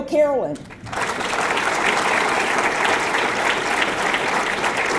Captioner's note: audience clapping